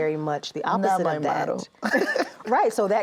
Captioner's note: laughs